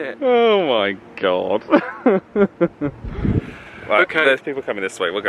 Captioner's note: chuckles